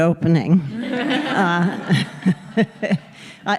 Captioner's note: laughter